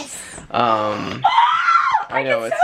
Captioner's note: excited noise